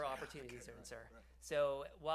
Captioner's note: laughs